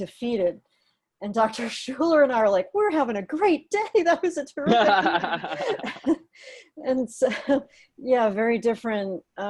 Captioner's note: laughter